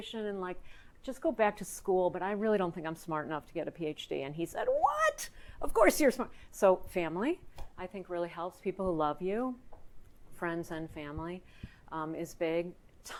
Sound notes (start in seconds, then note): none